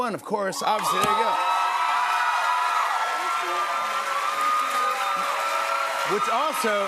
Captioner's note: cheers and applause